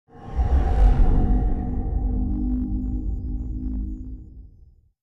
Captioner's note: metallic whoosh